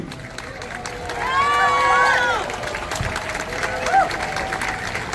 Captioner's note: applause